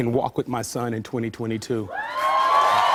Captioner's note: cheers and applause